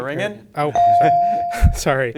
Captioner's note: bell dings